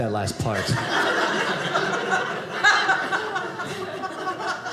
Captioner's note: audience laughing